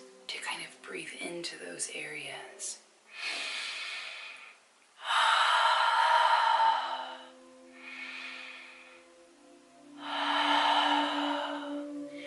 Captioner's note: breathes deeply